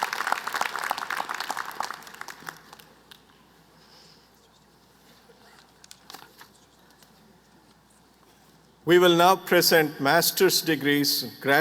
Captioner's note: applause